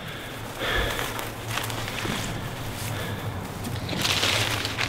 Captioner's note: breathing heavily